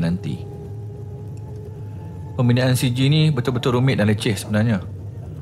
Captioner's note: motor Sound